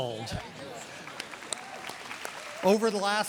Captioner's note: applause